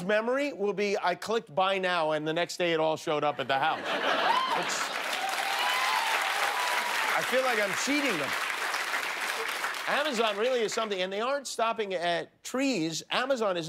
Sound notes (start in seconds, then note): 9.2 cheers and applause